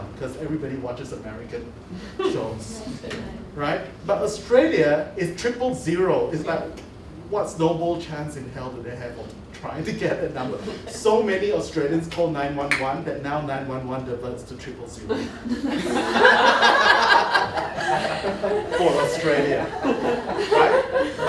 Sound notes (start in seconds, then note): 15.0 laughter